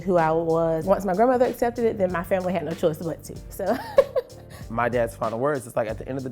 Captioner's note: laughter